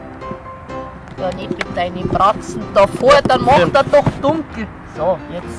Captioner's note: bavarian dialect